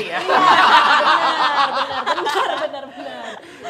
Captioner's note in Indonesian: tertawa